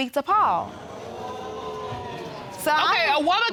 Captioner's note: audience groaning